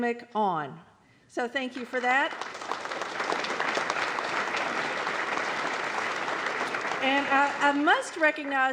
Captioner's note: applause